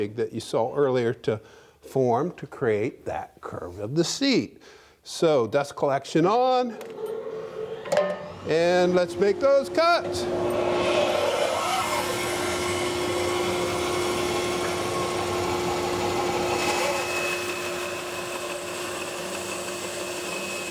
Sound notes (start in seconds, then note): 6.6 machine starting; 15.7 machine cutting